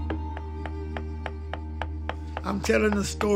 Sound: hammer tapping

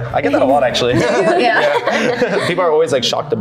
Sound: everyone laughs

